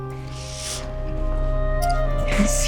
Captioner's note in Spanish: Solloza